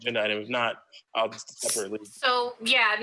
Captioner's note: faintly speaking